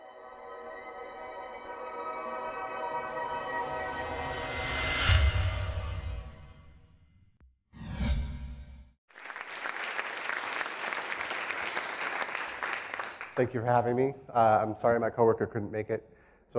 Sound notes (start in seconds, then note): 0.0 light, airy music; 4.8 echoing note; 7.8 swish; 9.1 applause